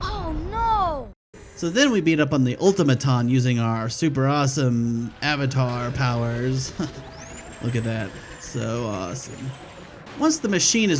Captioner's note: laughs